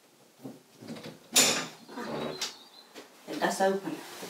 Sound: window clicks and creaks open

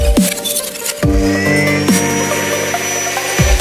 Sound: whirring

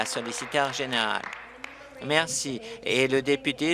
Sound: applause

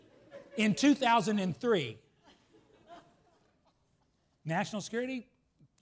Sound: laughs

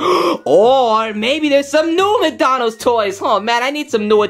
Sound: gasps

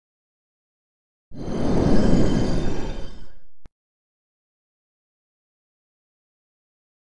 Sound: sound of magical stone

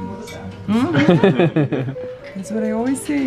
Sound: laughs

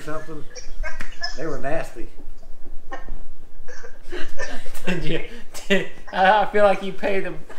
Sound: laughter

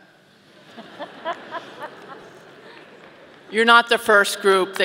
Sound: audience laughing

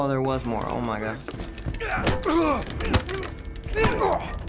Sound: in game: grunting

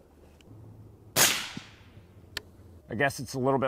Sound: rifle fires

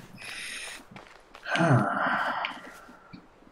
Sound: sighs

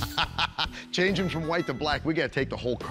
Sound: laughs

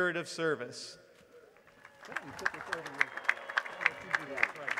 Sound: applause

